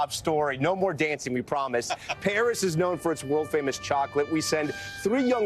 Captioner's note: laughter